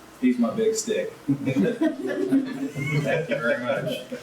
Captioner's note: laughs